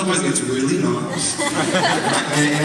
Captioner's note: audience laughs